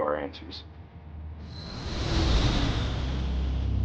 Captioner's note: engine roars; dark music